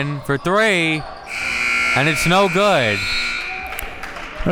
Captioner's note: buzzer rings